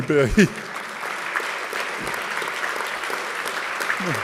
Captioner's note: audience clapping